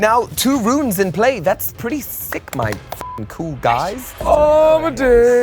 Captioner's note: beep